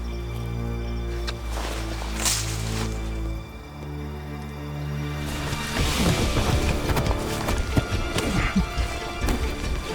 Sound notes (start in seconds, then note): 2.0 branch crashing; 7.0 dramatic music; 8.2 grunting